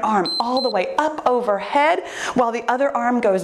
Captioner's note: timer beeps